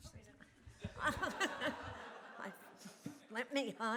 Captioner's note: laughter